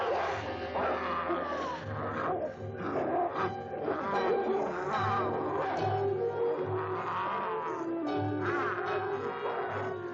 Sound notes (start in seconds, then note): 1.8 Priscilla gasps; 5.1 werewolf snarling